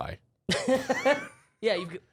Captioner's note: laughs